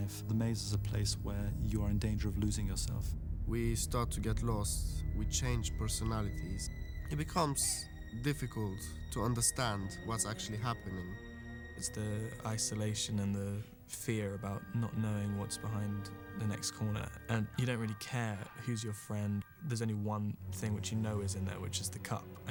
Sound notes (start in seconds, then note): none